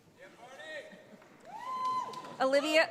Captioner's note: audience applauds